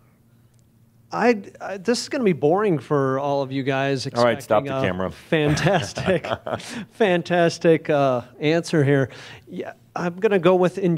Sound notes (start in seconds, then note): 5.4 Adamus chuckles